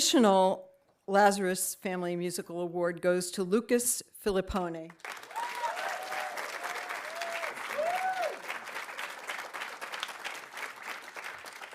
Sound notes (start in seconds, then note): 5.0 audience applauding; 5.1 audience cheering